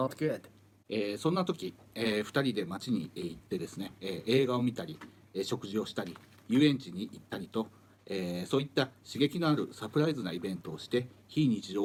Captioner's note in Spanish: Hablando en japonés